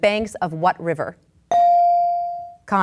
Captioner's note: bell dings